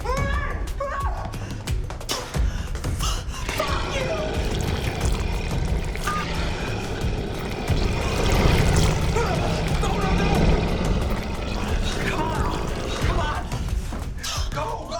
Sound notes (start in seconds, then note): 1.6 gun shots; 4.1 creature roaring